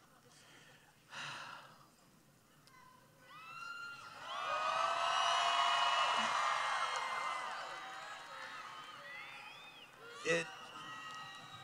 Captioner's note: cheering